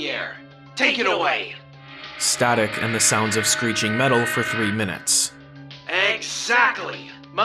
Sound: static and the sounds of screeching metal for three minutes

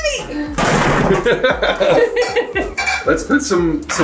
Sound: laughing

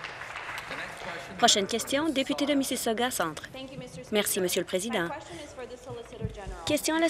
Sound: applause

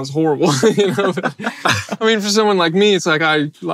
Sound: they laugh

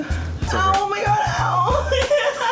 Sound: fake crying

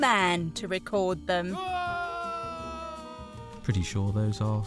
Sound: man screams

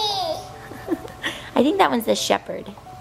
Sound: laughing

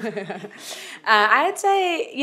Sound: laughs

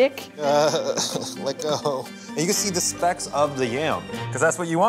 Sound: laughs

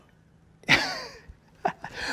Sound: chuckles

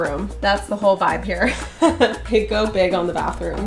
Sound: laughing

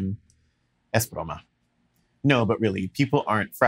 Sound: speaks Spanish

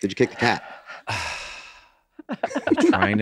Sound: sighing; others chuckling

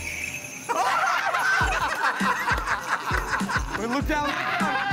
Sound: laughter

